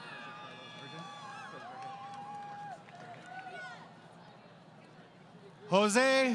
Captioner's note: crowd Cheering